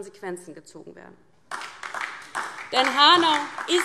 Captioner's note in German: Beifall DIE LINKE und vereinzelt SPD